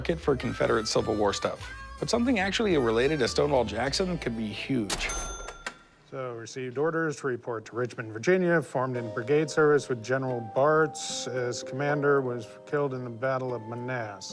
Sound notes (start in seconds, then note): 4.8 cash register chime